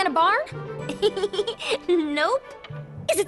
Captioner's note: chuckles